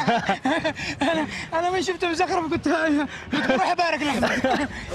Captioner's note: laughs